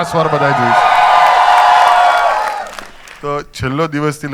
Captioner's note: crowd applauding